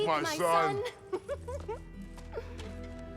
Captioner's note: laughs